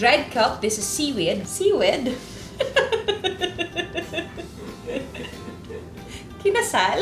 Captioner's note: laughs